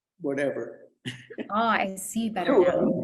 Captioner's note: laughs